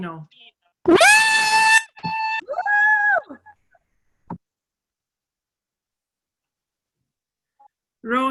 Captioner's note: cheering